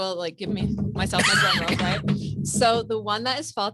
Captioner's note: coughs